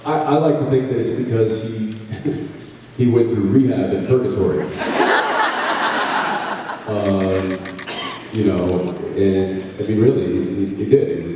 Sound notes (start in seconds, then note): 2.0 laughs